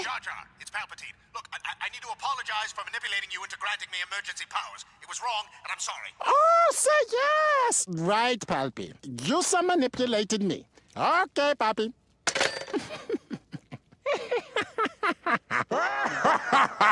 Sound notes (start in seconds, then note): 6.1 sarcastically; 12.2 hangs up; 14.0 chuckles turn into maniacal, evil laughter